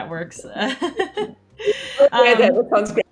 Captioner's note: laughs